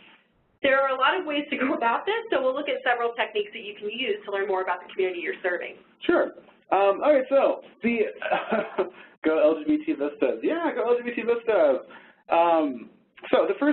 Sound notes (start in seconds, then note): 8.1 laughs